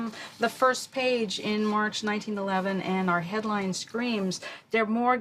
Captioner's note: speaks in Yiddish